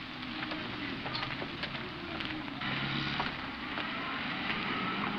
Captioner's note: car engine puttering